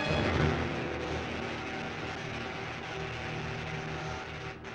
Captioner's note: electricity zapping